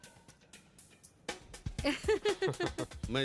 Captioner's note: laughs